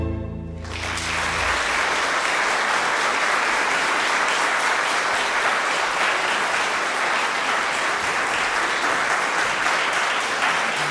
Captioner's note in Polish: oklaski